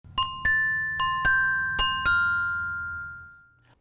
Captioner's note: bells chiming